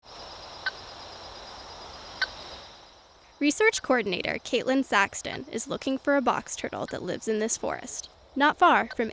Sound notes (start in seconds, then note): 0.8 crickets chirping; 2.8 transmitter beeping